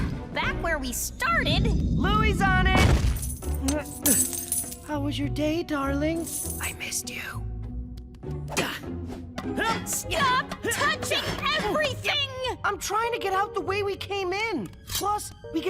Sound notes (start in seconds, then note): 7.1 whispers; 8.6 Louie grunting